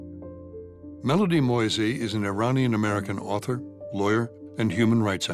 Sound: voiceover

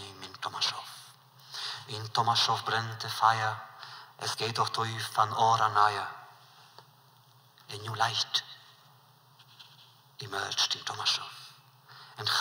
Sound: Yiddish

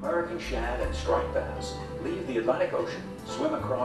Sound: voiceover

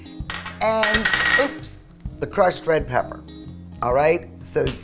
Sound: glass clanking

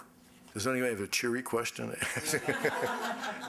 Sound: crowd laughing; laughing

